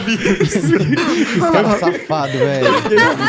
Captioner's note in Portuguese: risada